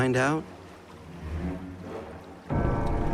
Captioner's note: bell tolls ominously